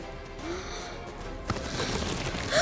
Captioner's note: gasping